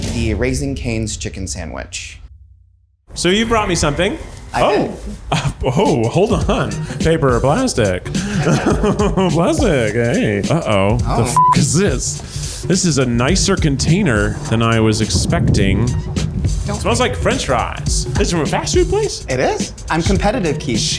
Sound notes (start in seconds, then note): 8.6 laughs; 11.3 beep